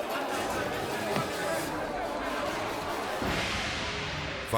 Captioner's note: stick thumping continues